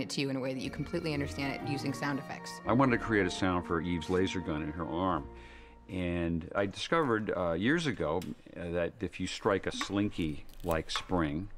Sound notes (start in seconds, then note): none